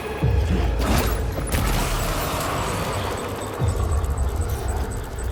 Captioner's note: grenades blasting